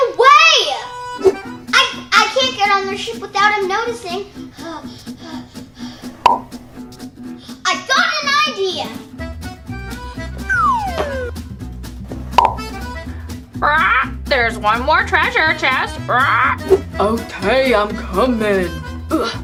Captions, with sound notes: I can't get on their ship without them noticing. I got an idea! (squawking) - There's one more treasure chest! (squawks) - Okay, I'm coming!